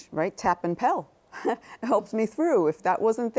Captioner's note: chuckles